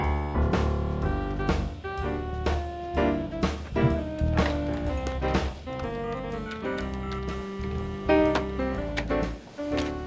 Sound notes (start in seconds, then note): 0.9 downtempo music; 6.4 tapping buttons